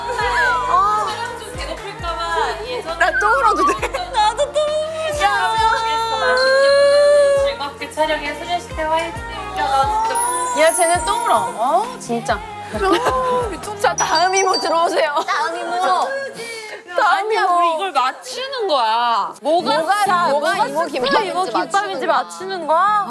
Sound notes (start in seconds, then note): 6.0 she's already crying